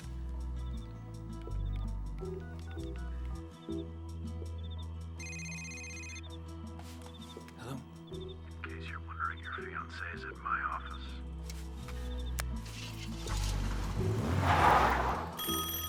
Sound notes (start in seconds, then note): 5.2 cell phone rings; 15.0 tires screech